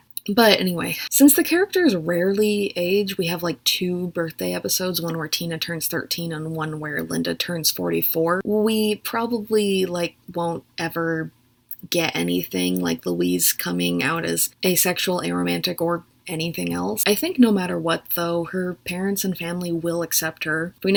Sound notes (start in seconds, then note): none